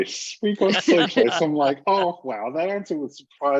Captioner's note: laughter